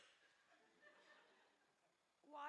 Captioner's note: laughter